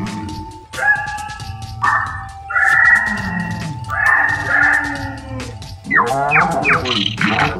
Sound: jungle sounds; safari jungle music

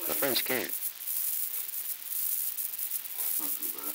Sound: production chatter; production chatter

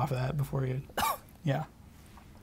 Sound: coughs

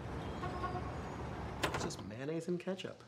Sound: cars honking

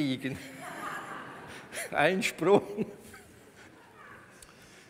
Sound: laughs

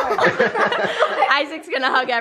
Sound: laughing

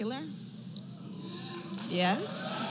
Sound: applause

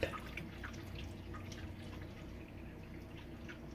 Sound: water flowing

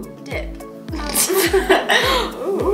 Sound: laughs

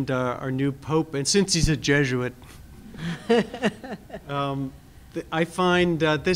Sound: laugh

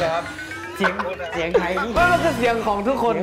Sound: speaking with a dialect

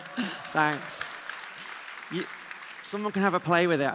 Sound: applause

